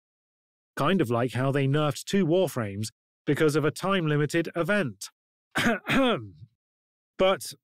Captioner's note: cough